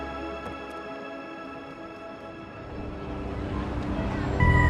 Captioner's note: indistinct chatter